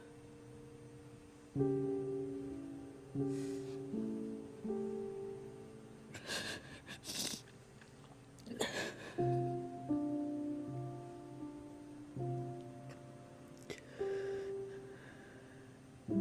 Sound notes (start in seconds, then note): 6.3 crying; 8.6 soft piano music